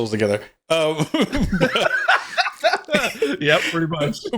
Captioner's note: both laughing